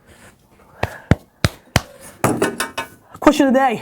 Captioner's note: slapping back